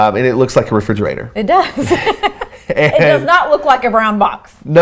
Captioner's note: laughs